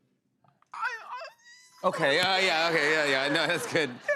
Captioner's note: squeaky